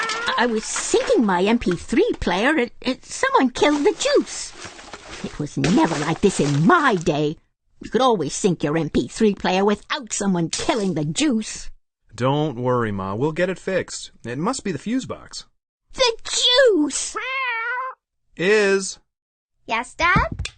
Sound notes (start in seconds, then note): 0.0 confused meow; 0.0 crash; 3.5 shuffling; 17.1 concerned meow